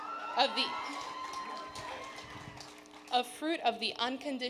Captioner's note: audience cheering